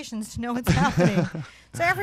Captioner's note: chuckles